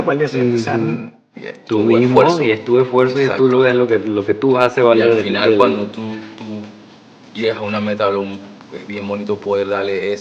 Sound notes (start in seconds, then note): 1.9 speaking Spanish